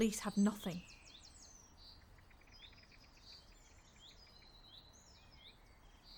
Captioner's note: birds continue chirping